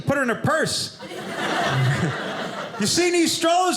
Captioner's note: audience laughing